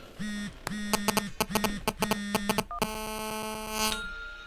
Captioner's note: phone buzzing